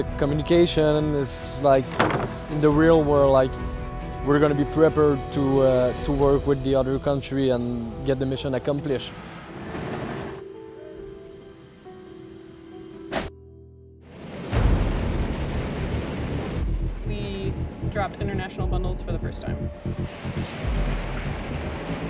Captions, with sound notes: The communication is like in the real world like we're going to be prepared to work with the other country and get the mission accomplished. (machine noises) (uptempo music) - We dropped international bundles for the first time.